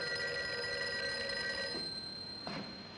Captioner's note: phone ringing